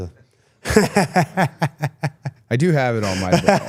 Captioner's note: Gunther laughs